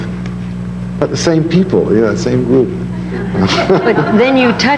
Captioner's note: laughs; audience laughing